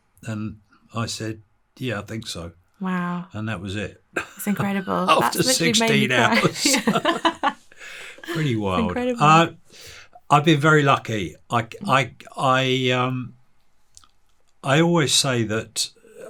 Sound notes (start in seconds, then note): 4.2 chuckling